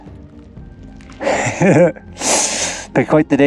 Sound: laughs

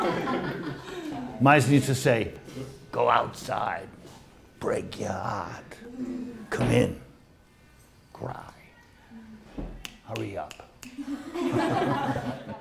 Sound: snaps fingers

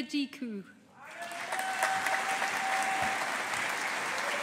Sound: audience applauding

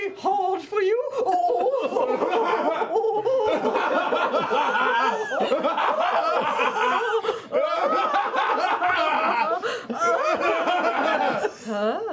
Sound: increasingly awkward laughter

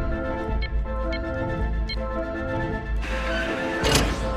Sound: keypad beeping

